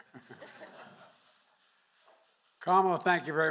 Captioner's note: laughter